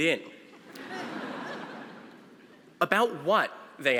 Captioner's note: audience laughing